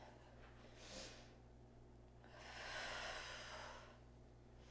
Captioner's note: breathing